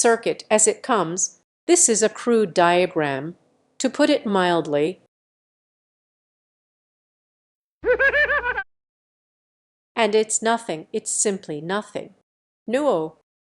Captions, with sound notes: The circuit as it comes, this is a crude diagram, to put it mildly [Troll laugh effect] And it's nothing, it's simply nothing. No!